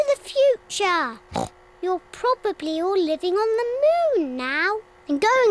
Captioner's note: oinks